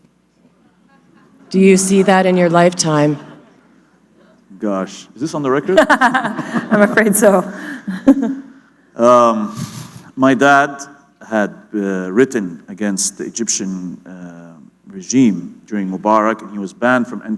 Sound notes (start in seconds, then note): 0.4 laughter; 5.6 laughter; 9.5 chuckle